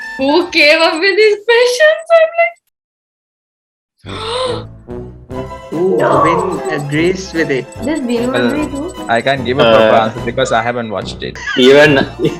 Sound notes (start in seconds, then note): 4.1 gasps; 11.5 laughs